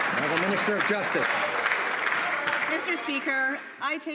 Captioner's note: some Applause